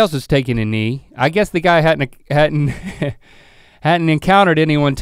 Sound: chuckles

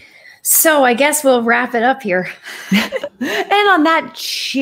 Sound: chuckles

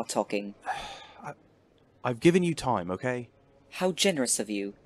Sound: Sirius makes a frustrated noise

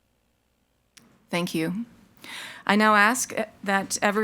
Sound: none

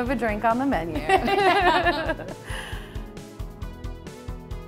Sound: laughing

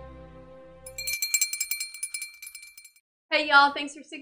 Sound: bell rings

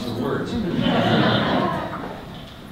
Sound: audience laughter

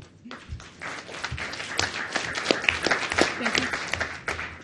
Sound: audience applauds

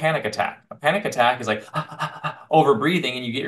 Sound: laughs

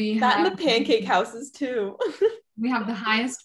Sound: chuckles

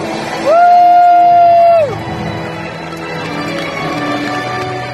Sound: cheering and applause

